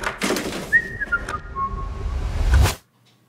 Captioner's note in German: Unschuldiges Pfeifen